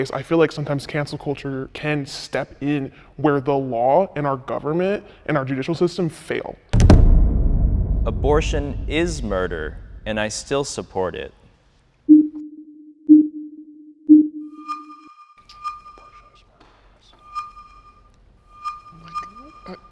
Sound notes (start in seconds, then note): 6.7 audio thumps; 11.9 countdown chiming; 14.7 audio beeping